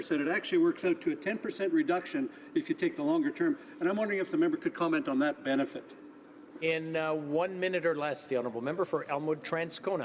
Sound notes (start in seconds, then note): none